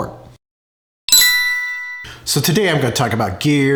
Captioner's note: bell dinging